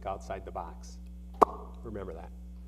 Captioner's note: pops lips